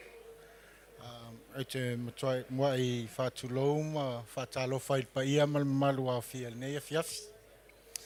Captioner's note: speaks foreign language